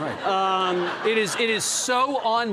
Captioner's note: audience laughing